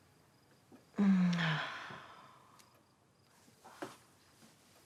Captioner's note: Emma sighs